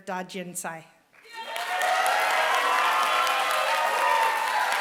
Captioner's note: applause